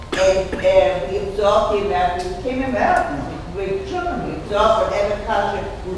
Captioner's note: speaking off mic and muffled